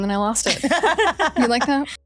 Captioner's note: laughing